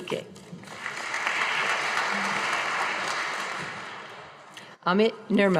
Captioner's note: audience applauding